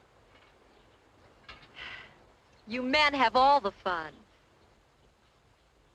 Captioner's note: sighs